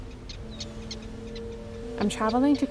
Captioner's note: seagull crying